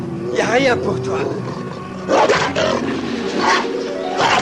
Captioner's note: growling